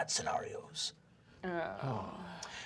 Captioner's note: group groaning